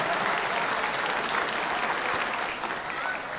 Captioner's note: applause